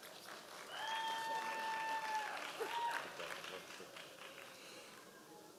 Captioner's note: members of the audience cheering